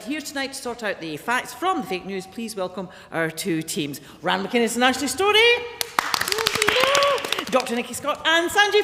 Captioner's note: applause